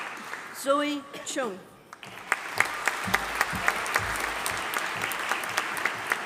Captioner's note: audience applauding